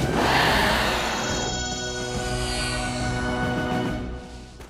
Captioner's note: Toth-Ra growling